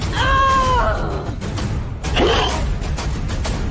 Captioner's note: shouting